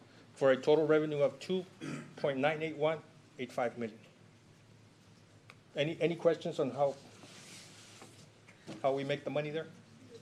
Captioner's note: clears throat